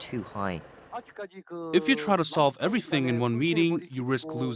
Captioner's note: Korean